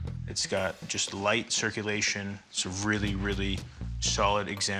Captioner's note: none